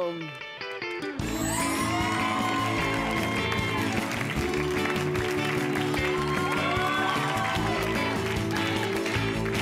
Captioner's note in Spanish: Aplausos